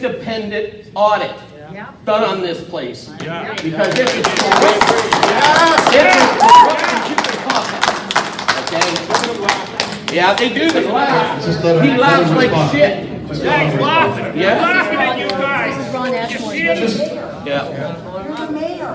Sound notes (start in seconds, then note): 3.4 Bill's friends clap